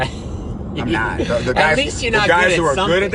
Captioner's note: laughs